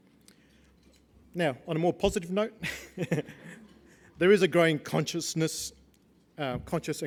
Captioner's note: laugh